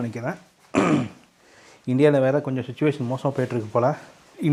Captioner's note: clearing throat